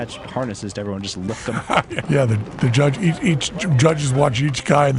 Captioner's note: laughs